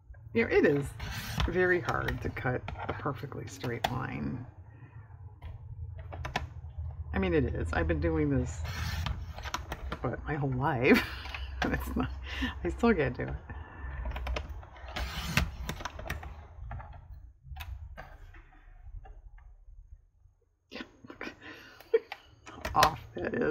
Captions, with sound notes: you know it is very hard to cut a perfectly straight line i mean it is, i've been doing this but my whole life, (laughs) i still can't do it (laughs) look at how off that is